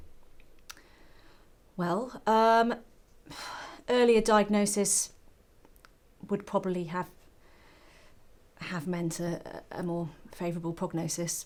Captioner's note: phew